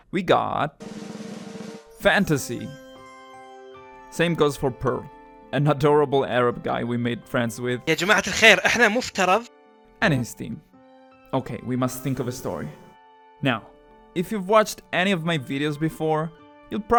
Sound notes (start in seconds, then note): 1.0 drumroll; 7.9 speaks arab